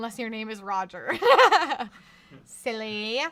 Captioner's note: laughs